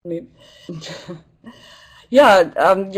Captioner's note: laugh